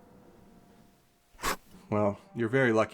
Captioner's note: pen writing